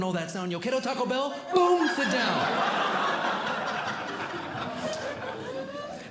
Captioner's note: audience Laughing